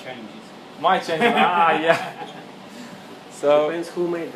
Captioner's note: laughing